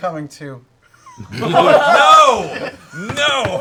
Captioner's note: laughter